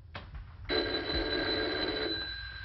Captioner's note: phone rings